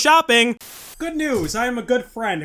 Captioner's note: static